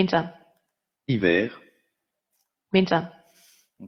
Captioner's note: computer speaks in foreign language